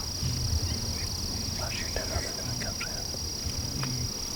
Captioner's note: whispering